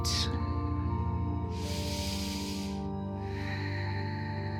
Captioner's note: calm music; inhales; exhales